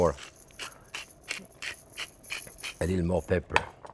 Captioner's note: pepper mill crunching